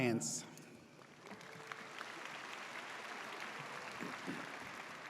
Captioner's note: audience applauds